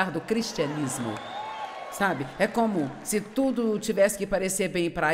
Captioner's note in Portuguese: audiência aplaude